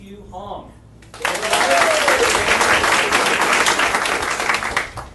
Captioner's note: audience applauding